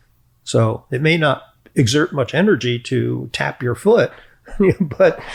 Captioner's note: chuckles